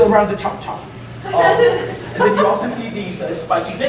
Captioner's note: audience laughing